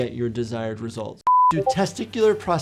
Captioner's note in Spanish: pitido de pantalla